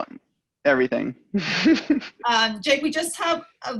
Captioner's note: laughter